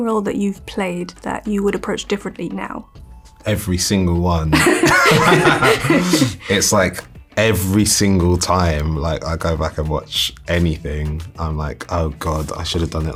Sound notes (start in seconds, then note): 4.5 laughter